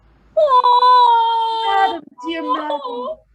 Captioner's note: weeps